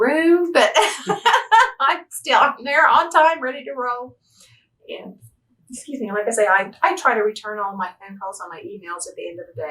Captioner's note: laughs